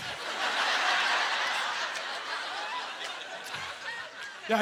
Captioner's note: audience laughter